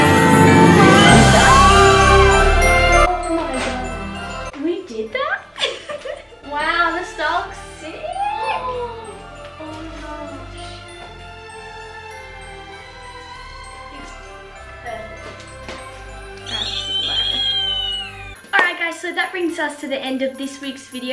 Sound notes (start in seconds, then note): 9.0 gasps; 16.4 squeals with delight